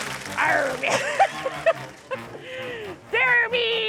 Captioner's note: laughs